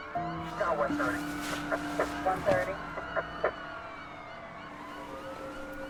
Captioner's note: officers speaking over radio